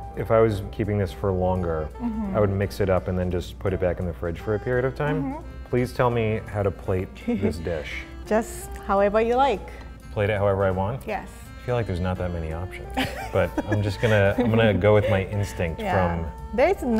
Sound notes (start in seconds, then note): 7.2 chuckles; 12.9 laughs